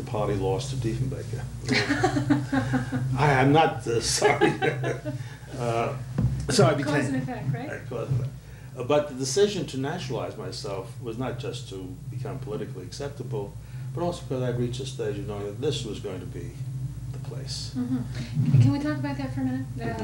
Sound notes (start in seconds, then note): 1.6 laughter